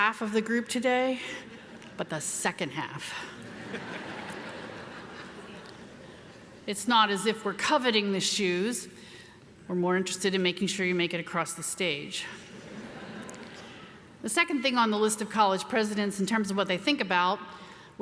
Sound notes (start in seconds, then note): 3.4 audience laughs; 12.5 audience laughs